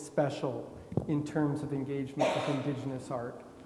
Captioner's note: attendee coughing